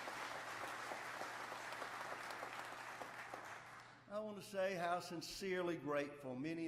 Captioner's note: applause